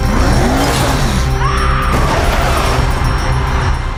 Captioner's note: screams